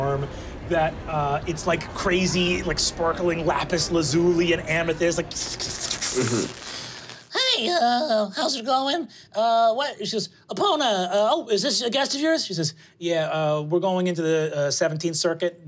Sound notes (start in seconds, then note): 4.8 crackling